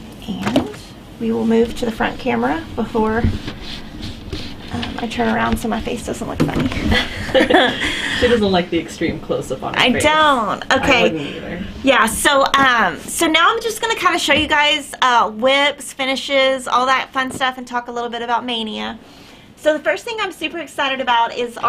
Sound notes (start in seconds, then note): 6.8 both laughing